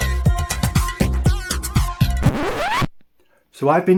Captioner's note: record scratch